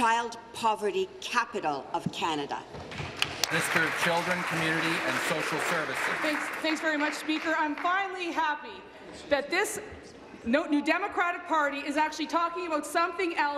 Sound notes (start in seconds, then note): 5.5 applause